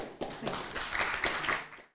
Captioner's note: audience applauding